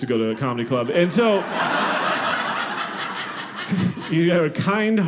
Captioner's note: audience laughing